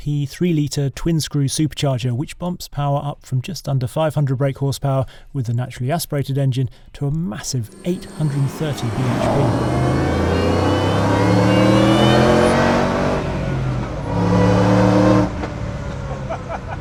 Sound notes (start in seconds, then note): 10.5 car engine roars